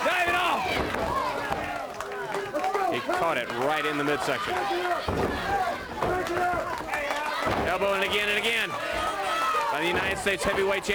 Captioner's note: crowd cheering